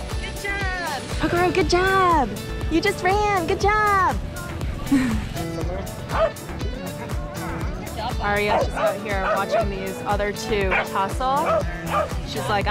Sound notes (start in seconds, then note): 5.6 dog barking; 10.6 dog barking; 10.9 dogs barking